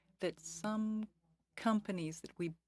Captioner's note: speaking French